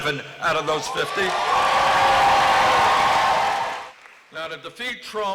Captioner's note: applause